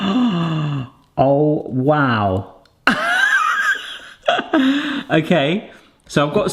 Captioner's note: laughs